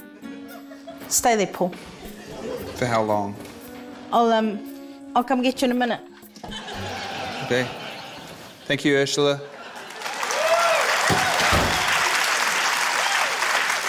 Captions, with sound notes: Stay there, Paul. - For how long? - I'll, um... I'll come get you in a minute. (LAUGHTER) - OK. Thank you, Urzila. (CHEERING, APPLAUSE)